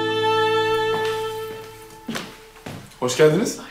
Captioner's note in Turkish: Müzik - Duygusal; Ayak sesi